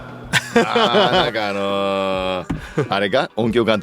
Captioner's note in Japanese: 笑い